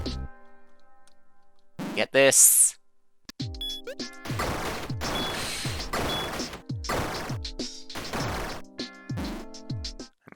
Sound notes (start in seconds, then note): 5.3 inhaling